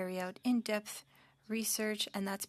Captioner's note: speaking French